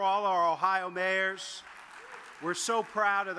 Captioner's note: audience claps